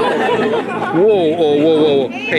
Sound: crowd laughing

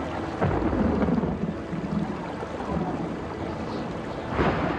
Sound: thunder rumbles

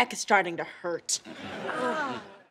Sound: moaning

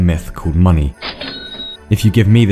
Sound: register sound effect

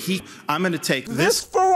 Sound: none

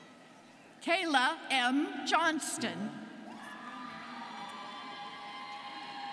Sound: students cheering

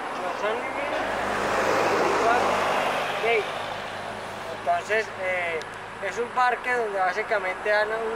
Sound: truck passed

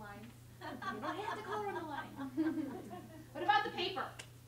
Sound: laughter

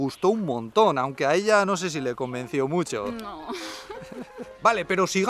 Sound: laughs

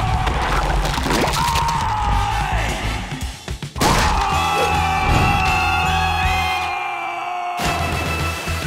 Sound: screaming

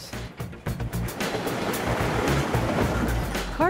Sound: recyclables clattering

